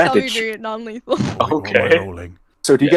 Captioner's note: laughter